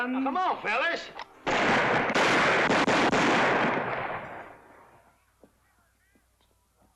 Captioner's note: gunshots